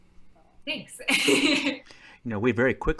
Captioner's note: laughing